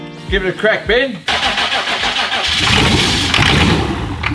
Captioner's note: engine revs